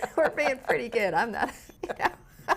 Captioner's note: laughs